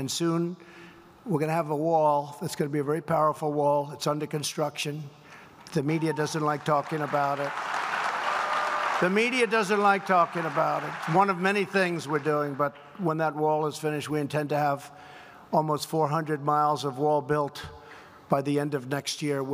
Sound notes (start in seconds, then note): 7.7 applause